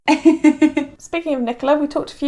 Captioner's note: laughs